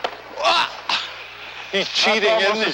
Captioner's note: grunts